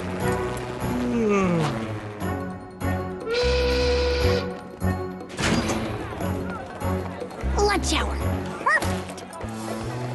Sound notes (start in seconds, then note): 3.2 factory whistle blows